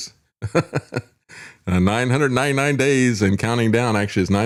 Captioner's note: laughs